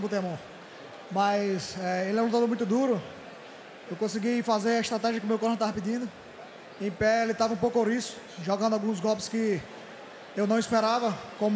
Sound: foreign

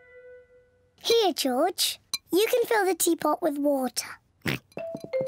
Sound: oinks

